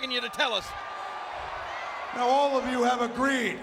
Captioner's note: audience cheering